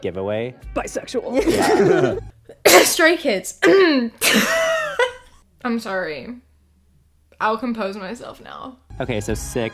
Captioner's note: bursts out laughing; fake coughs; fake coughs